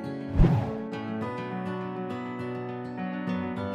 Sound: air whooshing

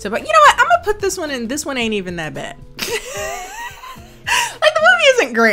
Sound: laughs

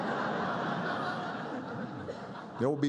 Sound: laughter

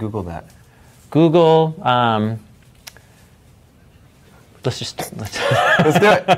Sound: laughing

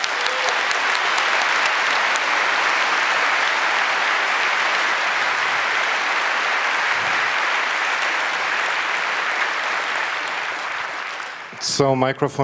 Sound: applause

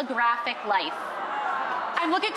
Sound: crowd gasping

